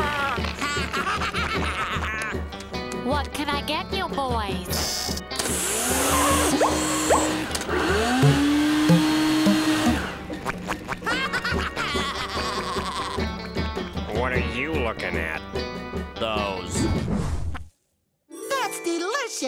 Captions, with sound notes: [laughing] What can I get you boys? [blower running] [laughing] What are you looking at? Those. That's delicious.